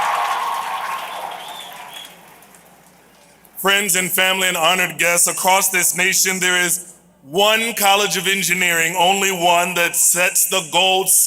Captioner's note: applause